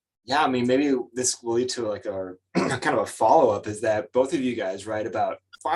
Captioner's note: clears throat